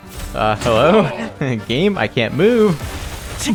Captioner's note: laughs